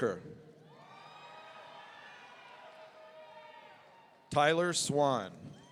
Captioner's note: audience cheering